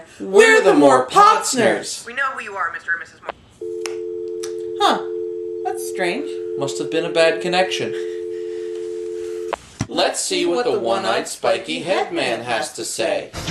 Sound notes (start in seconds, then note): 3.6 dial Tone